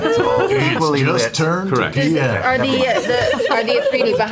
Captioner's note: McCree voice